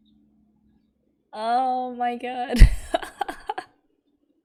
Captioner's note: laughs